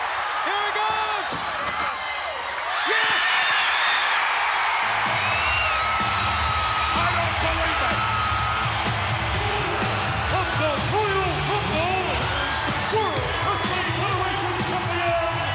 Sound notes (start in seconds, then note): 1.9 applause